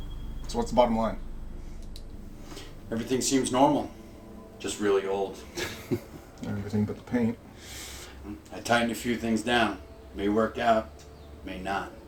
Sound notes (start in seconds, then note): 5.4 chuckles